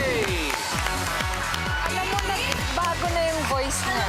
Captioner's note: applause